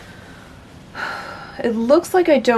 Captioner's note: sigh